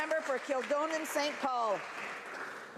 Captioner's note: some Applause